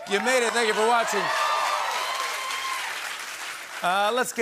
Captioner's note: cheering and applause